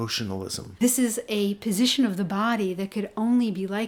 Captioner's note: voiceover